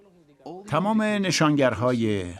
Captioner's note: speaking in foreign language